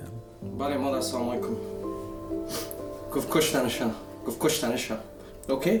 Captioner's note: speaking Farsi